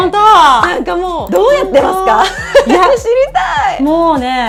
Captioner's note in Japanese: 笑い